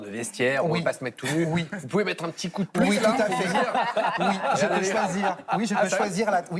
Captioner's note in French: rires